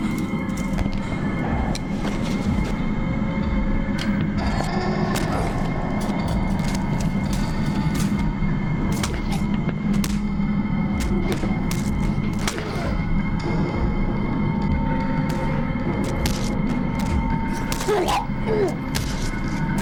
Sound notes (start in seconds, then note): 5.8 gruñidos; 8.0 ominosa de la música; 10.8 gruñidos